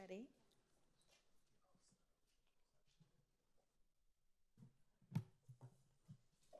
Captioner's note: staff member speaking faintly